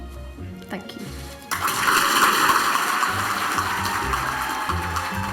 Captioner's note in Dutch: publiek applaudisseert